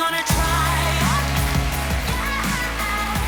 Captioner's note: applause